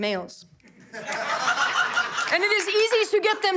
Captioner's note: audience laughter